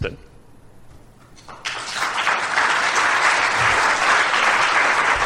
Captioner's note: applause